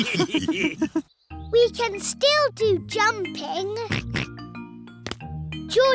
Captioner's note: all laughing; oinks